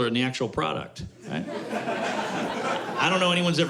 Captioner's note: laughter